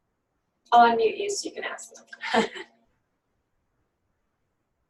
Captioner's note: laughter